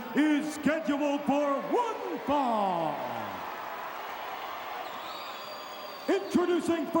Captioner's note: crowd cheering